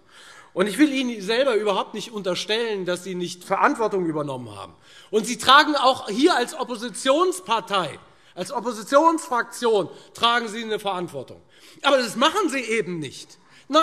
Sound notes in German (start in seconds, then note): none